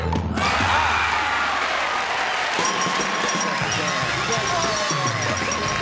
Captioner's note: cheering